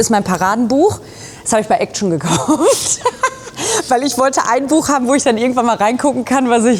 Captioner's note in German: gelächter